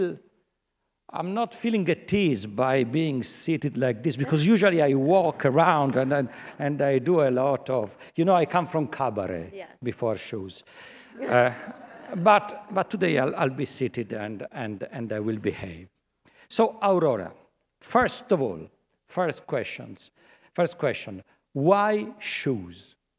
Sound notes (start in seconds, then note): 11.2 laughter